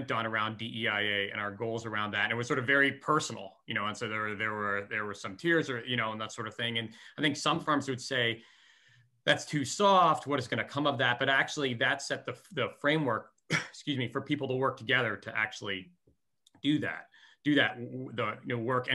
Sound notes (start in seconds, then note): 13.4 coughs